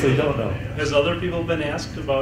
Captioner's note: chuckles